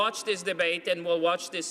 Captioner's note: speaking French